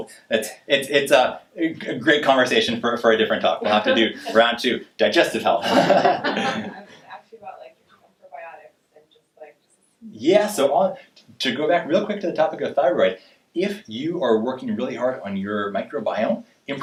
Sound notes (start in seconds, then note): 5.6 laughing